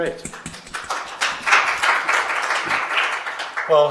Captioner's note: applause